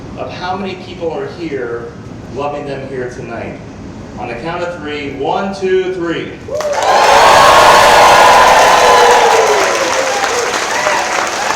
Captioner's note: loud cheers